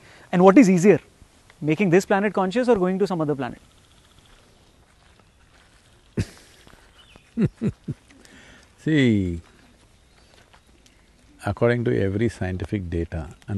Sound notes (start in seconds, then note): 7.2 Sadhguru laughs